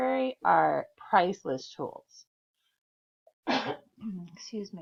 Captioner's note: sneeze